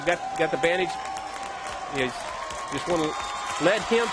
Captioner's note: crowd applauds